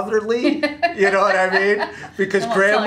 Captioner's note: laughing